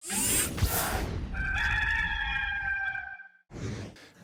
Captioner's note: electronic whizzing; rooster crowing